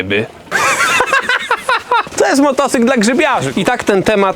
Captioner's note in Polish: śmiech